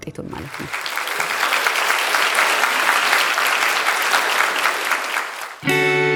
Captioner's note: applause